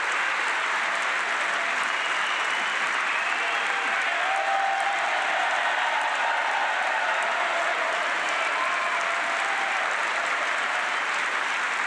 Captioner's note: applause